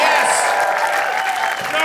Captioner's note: audience cheering